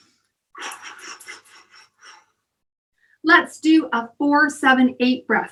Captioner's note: deep breathing